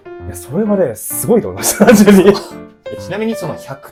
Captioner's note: laughs